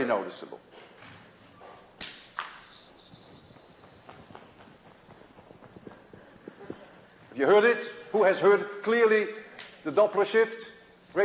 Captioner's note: sound from the tuning fork